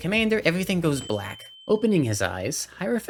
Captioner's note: windchime